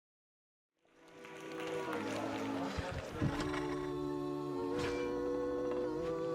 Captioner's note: gentle music; audience applauding